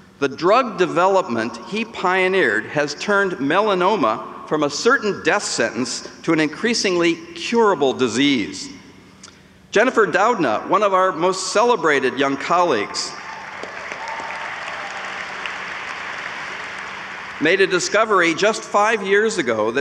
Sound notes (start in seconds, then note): 13.1 audience applauds